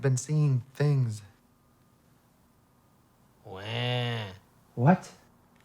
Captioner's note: clears throat sarcastically